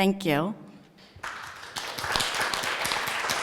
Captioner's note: applause